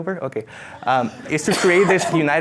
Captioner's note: laughing